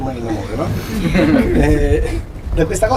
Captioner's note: laughing